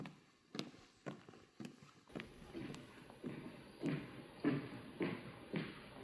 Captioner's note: footsteps approaching